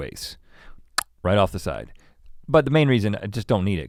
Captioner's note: clicks tongue